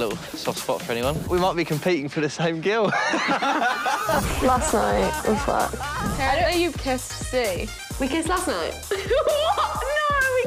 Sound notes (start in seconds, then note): 2.9 laughing